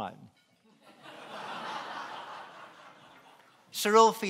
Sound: laughing

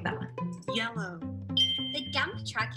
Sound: computer voice

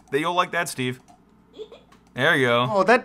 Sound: computer sound

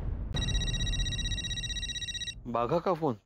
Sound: phone ringing

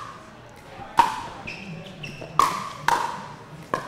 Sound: ball bouncing

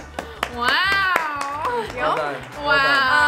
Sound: clapping

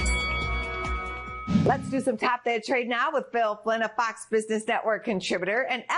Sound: bell rings

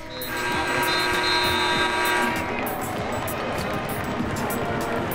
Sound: buzzer

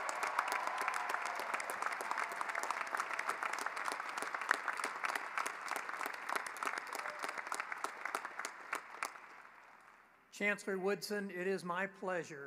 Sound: cheering and applause

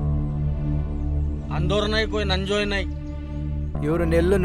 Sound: tribal Language

